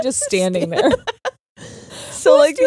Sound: laughing

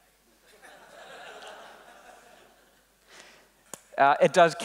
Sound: laughing

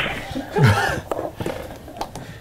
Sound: crew laughing

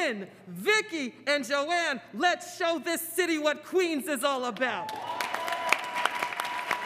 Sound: applause

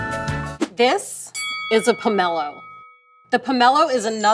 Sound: bell dings

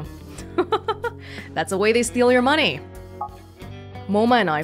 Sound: chuckles

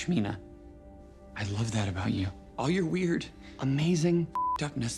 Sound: beep

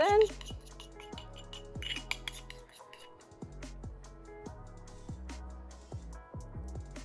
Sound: spoon scraping; soft upbeat music

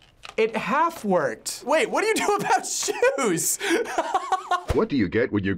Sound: laughing; voice-over

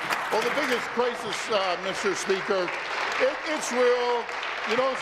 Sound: applause

